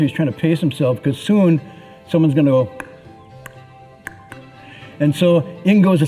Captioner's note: wooden fish knock